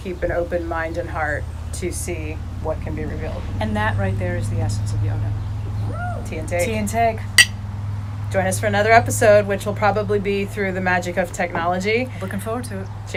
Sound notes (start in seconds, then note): 7.3 glasses clanking